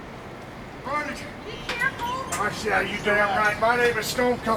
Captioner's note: overlapping chatter